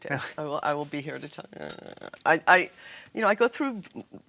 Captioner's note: grumbles